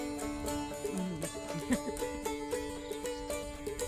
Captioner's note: laughing